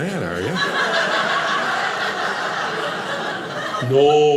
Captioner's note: audience laughing